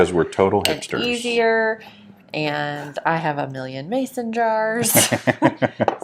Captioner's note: laughing